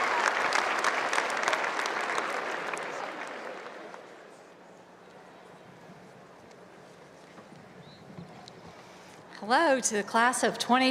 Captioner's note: cheers and appuse